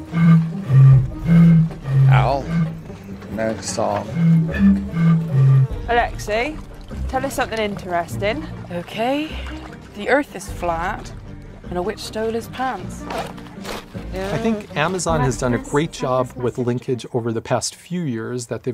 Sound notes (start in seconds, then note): 0.0 tooting; 13.5 mud squelching